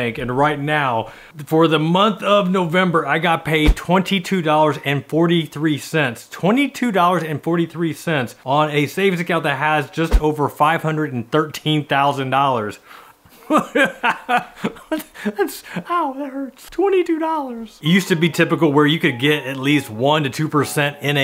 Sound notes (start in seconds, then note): 13.4 laughing